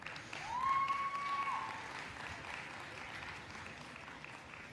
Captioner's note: crowd applauds; crowd cheers